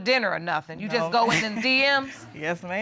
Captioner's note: chuckles